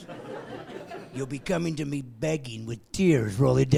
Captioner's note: laughing